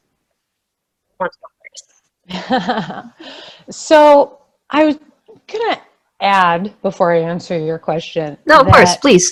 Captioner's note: laughs